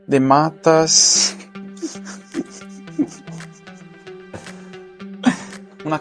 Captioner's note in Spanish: Risas